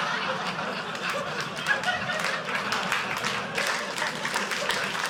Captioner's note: audience laughing; audience clapping